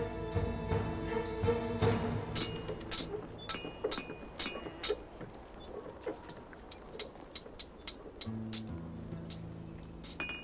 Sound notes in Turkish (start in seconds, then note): 0.0 Müzik - Yaylılar ve vurmalılar; 2.3 Demir dövme sesi